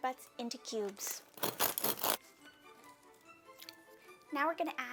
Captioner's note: knife scraping bread